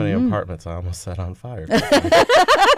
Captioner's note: laughter